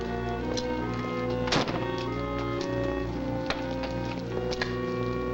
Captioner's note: car door slams